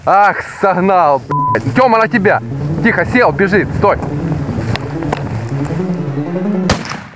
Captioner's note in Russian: выстрелы